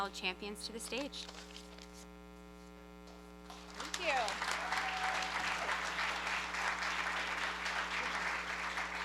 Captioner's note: applause